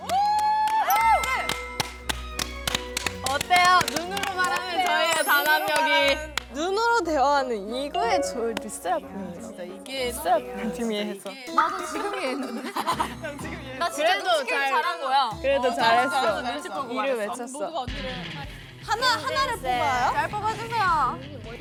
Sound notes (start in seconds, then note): 11.3 whisper